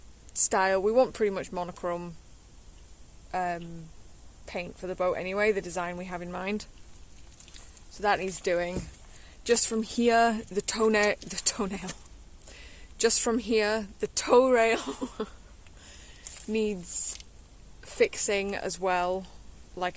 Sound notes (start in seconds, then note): 11.7 laughs